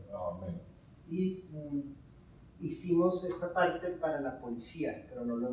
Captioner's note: speaking in Spanish